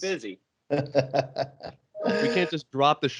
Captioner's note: laughs